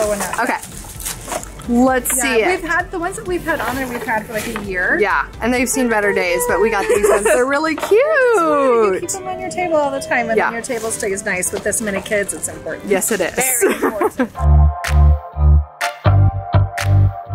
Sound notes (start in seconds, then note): 13.4 laughs; 14.6 upbeat music